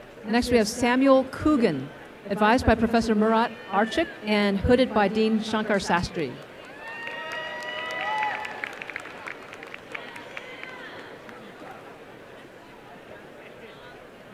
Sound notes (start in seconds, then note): 6.4 applause